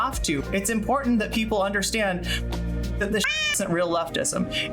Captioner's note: meow